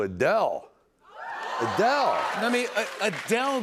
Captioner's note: cheers and applause